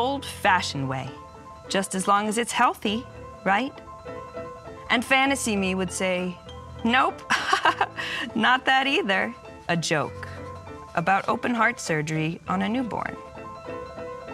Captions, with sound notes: The old-fashioned way, just as long as it's healthy, right?" And fantasy me would say, "Nope, [chuckles] not that either." A joke about open heart surgery on a newborn.